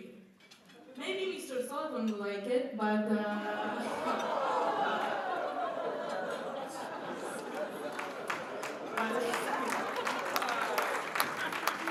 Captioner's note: laughter and clapping from crowd